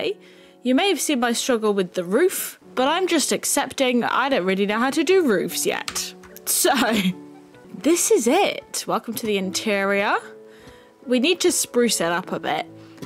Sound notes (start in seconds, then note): 6.1 laugh